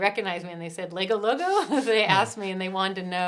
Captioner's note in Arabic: ضحك